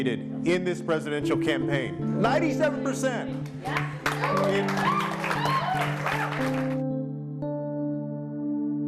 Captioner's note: cheering